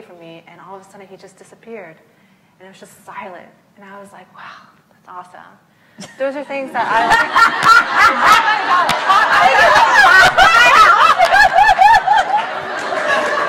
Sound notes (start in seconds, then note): 8.1 laugh